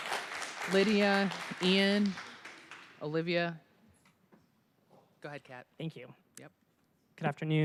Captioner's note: applause